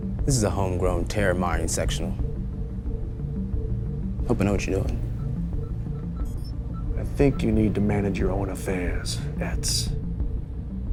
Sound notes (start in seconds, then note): 5.0 machinery beeping; 6.0 tense music